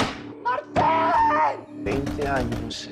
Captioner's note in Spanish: Golpes